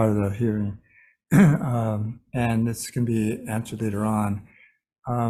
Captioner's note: clears throat